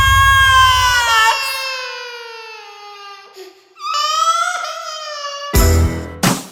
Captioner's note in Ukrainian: плач дитини